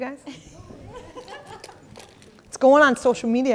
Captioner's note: audience laughing